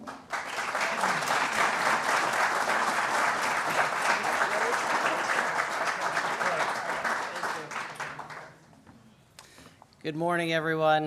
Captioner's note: applause